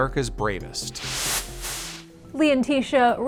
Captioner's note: air whooshes